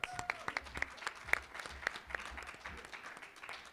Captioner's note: applause